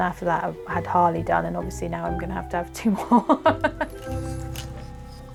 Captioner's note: laughs